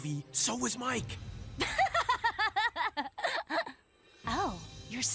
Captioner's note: Zoey Laughs